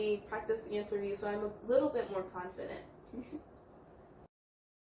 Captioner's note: laughs